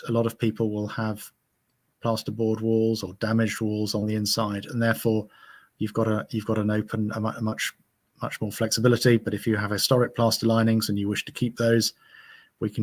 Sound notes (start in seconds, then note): none